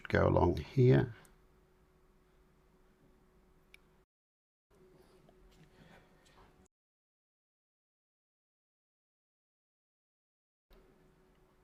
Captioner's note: silence